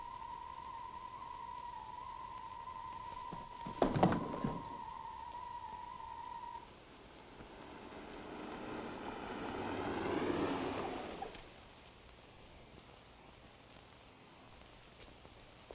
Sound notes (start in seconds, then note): 8.1 engine whirring